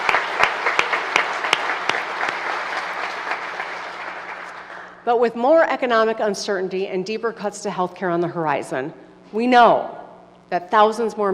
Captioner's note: applause